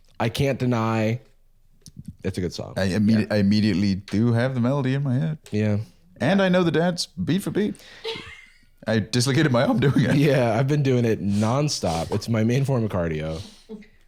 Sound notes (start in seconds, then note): 8.0 laughs